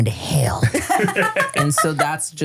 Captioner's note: laugh